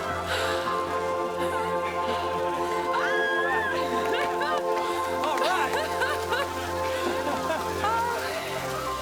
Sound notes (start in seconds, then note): 3.0 female scream; 6.1 crowd